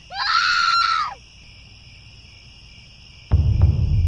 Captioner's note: crickets, scary music, woman screams, eerie laugh; crickets